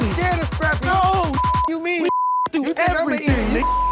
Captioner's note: beep